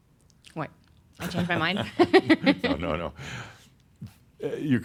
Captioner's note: she chuckles